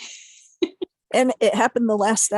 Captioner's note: chuckling